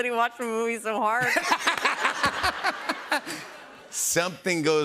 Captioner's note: laughter